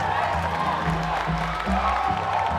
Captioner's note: aplausos y vítores